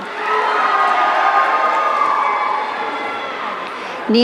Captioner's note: audience cheering